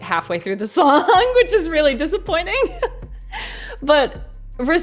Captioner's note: laughs